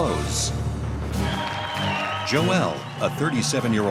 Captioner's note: Gritos e aplausos